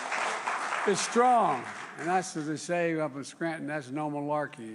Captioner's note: applause